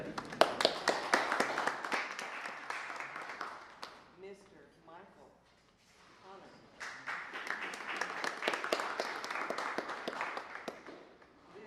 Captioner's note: applause